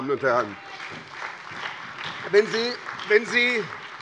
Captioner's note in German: Beifall bei der SPD